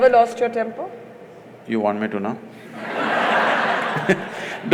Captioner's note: laughter; laughs